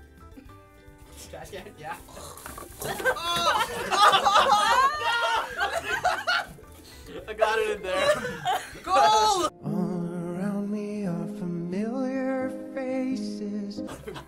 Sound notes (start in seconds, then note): 2.0 gags; 2.0 laughs; 5.0 loud laughter; 13.8 laughing